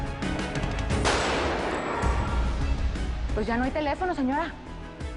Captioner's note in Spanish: Disparos